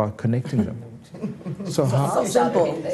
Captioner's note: all laughing